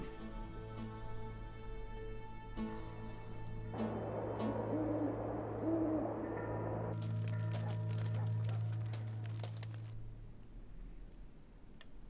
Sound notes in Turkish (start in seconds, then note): 6.8 Ateş çıtırtısı sesi; 7.2 Köpek havlama sesi